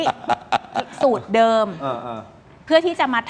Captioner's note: laughs